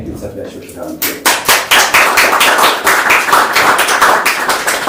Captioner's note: applause